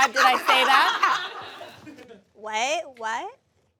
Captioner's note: audience laughs